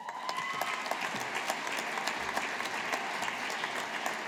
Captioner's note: audience applauding